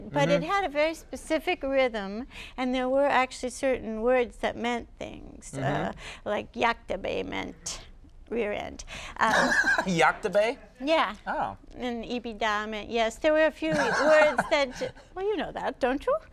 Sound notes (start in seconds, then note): 9.2 laughs